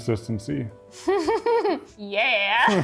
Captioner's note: laughing